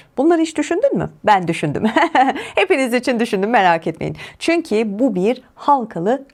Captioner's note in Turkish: kahkaha